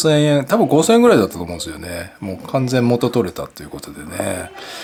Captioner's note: laughs